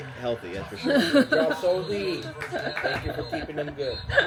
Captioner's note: clap clap clap